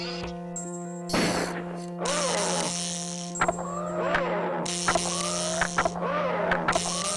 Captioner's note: gun fires; animatronic skips audibly